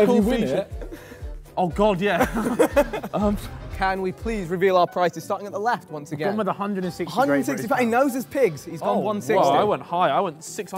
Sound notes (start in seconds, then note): 0.0 Sidemen laugh; 2.1 laughs